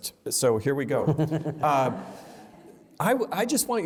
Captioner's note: laughter